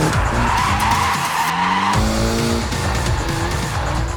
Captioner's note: tires squeal